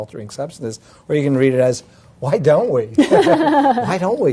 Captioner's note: laugh